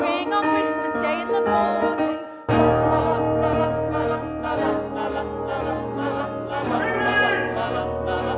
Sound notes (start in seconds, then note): 6.7 shouts